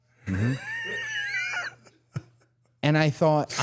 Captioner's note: Dallas laughs